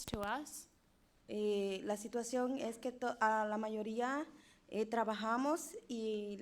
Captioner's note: speaking in foreign language